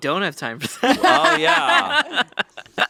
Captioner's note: laugh